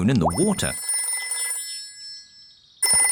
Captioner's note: phone ringing